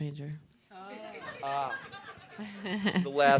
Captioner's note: audience laughing